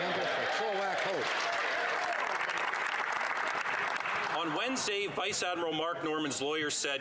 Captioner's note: speaking French